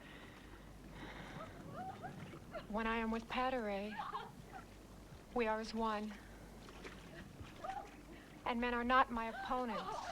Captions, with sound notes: - (Sighs) When I am with pateray, we are as one, and men are not my opponent.